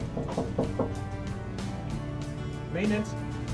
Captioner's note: knock-Knock